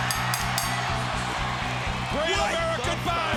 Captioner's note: bell rings